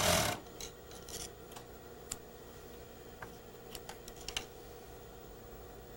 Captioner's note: scissor cutting thread